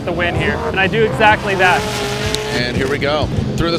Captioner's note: engines roar